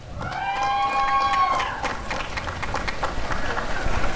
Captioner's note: applause and cheering